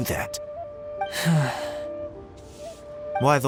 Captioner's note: sigh